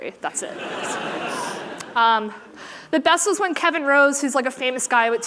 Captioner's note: laughter